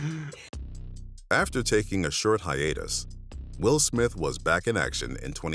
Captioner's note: both laughing